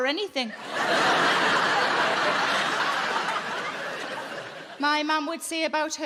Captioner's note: audience laughing